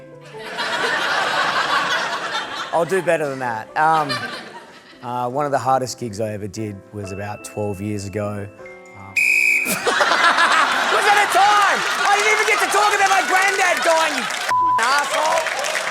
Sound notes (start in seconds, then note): 0.3 laughter; 9.1 blows whistle; 9.6 laughter